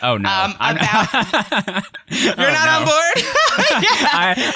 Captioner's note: laughs